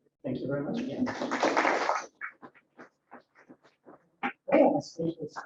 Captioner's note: applause